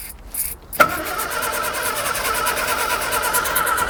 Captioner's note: engine rumbling